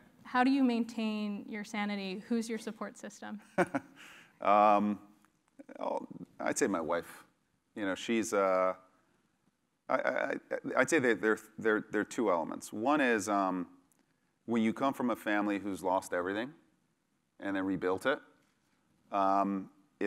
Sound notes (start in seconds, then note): 3.6 laugh